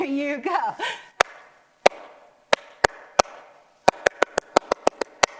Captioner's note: clapping to the rhythm